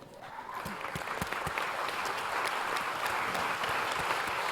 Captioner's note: audience applause